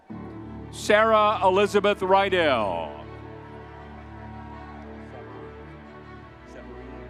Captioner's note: crowd cheering